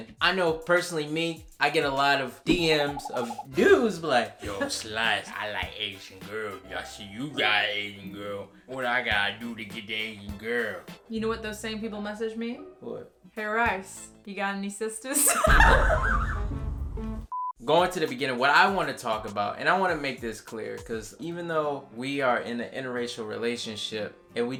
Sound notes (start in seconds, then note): 15.2 laughing; 17.3 beep